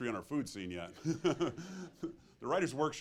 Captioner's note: chuckles